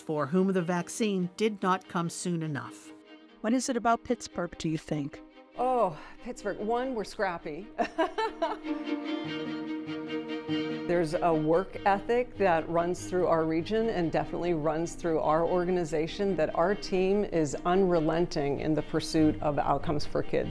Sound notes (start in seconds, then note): 7.8 laughs; 8.8 gentle inspirational music